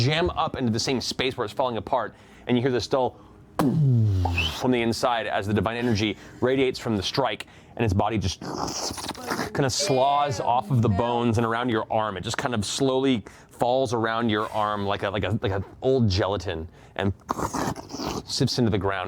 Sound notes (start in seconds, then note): 3.6 shockwave sound; 8.8 slurping; 17.2 slurping